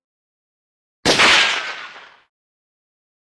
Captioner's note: boom